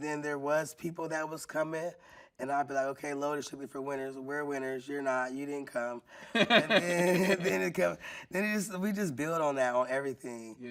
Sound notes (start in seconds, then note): 6.3 laughing